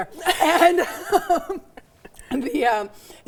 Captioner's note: laughs